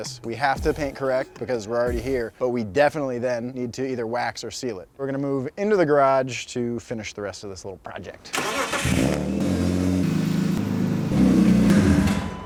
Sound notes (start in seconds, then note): 8.3 engine starts